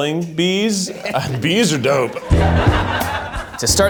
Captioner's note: audience laughing